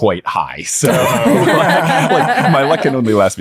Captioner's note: everyone laughing